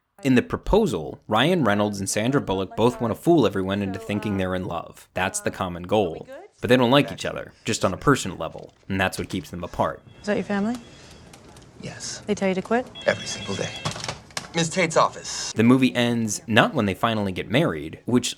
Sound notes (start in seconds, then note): 12.2 phone ringing